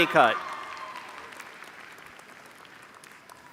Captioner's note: applause